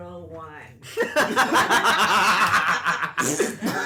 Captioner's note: laughter